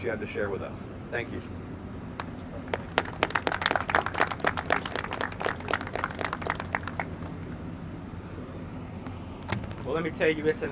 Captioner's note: applause